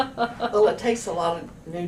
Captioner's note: laughter